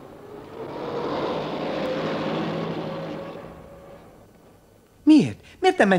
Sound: truck passing noisily

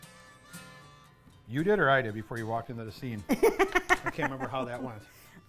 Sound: laughing

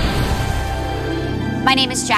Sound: fire roaring

